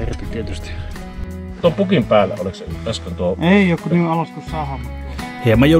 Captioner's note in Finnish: keskustelua